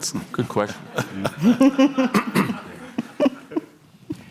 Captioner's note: laughter